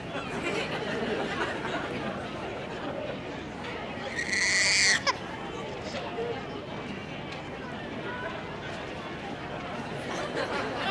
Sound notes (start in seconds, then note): 4.1 baby cries again